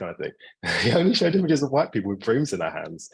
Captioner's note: laughing